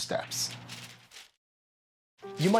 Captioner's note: paper rustling